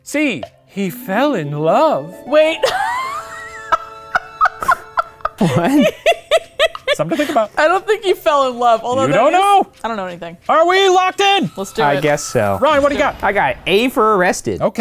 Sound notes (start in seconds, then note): 2.6 laughing